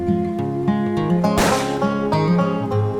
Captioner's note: gun shot